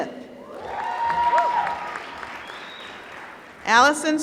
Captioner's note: applause